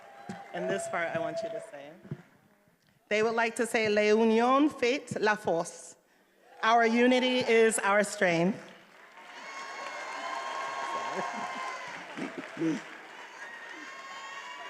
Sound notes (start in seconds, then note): 3.5 speaking in foreign language; 10.2 attendees applauding and cheering